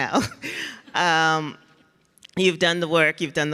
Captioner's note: laughs